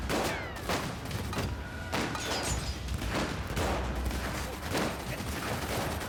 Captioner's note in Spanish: tiroteo